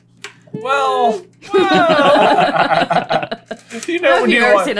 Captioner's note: laughter